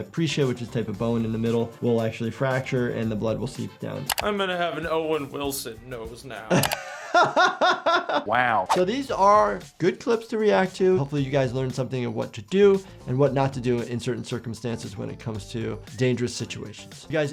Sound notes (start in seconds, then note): 6.4 laughing